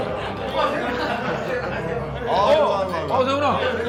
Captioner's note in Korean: 시끌시끌